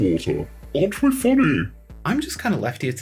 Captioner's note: in a mocking, voice shifted tone